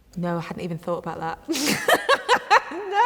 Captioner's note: laughs